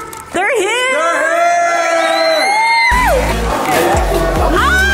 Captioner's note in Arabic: الجميع يصرخون